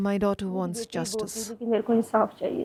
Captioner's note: speaking alternate language